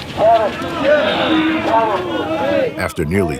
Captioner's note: men grunting